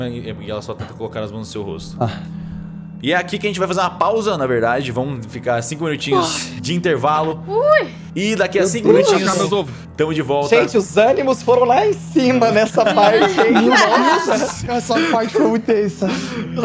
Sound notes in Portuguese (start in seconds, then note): 6.4 Suspiro de alivio; 12.2 risada